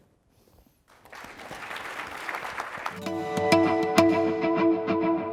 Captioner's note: applause